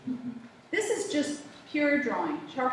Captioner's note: laughter